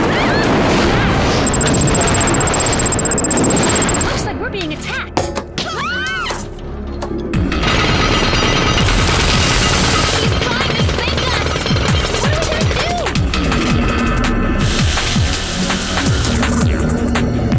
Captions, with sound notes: What's that? It looks like we're being attacked. [screams] He's trying to sink us. What are we going to do? Hey!